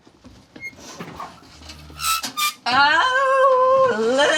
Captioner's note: oven door opens